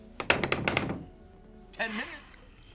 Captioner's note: Ernest knocks